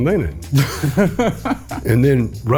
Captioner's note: laughs